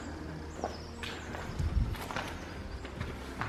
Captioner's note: crunchy footsteps